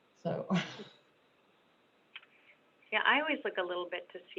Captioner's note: chuckling